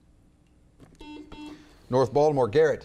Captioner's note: buzzer beeps